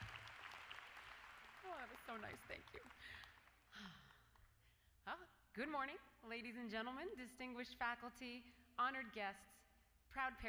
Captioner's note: applause